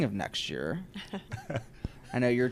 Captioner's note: laughs